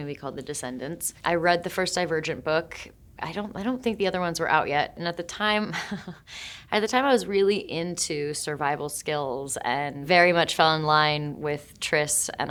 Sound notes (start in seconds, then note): 5.6 Shailene chuckling